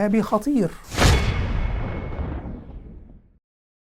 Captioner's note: sound effect